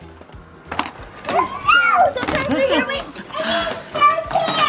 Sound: kids gasp

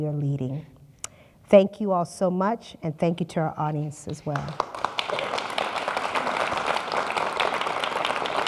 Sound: applause

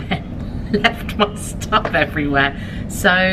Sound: chuckles

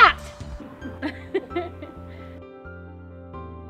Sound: laughing

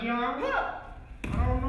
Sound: dancer yelling

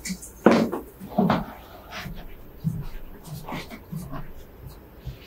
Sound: footsteps

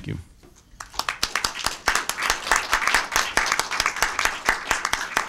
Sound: audience applauding

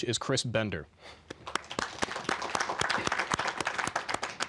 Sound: applause

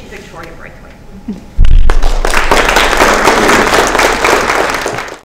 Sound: applause

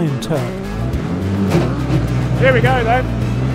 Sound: truck engine roars

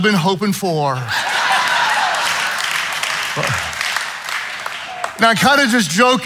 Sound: audience laughing

